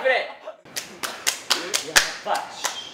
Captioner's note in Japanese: チョークの音「パンパン」